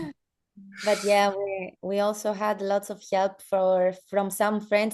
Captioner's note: chuckles